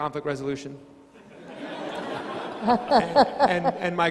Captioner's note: crowd laughing